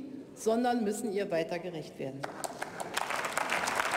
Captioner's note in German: Beifall bei der CDU/CSU und der SPD